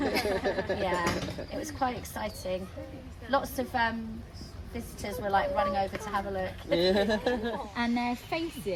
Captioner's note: laughter; laughter